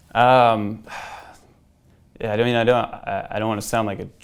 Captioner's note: sighs